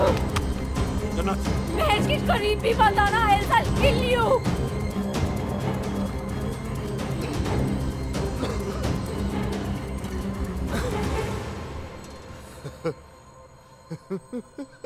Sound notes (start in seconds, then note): 8.2 Coughs; 12.3 Laughing